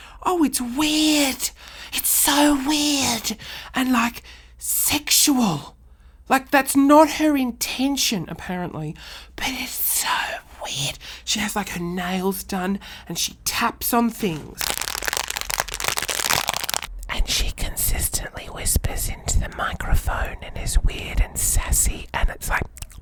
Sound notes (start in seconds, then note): 14.4 crinkles a bag; 17.2 whispering